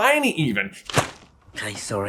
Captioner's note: thwap